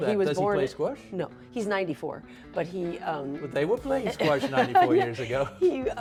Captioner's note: laughs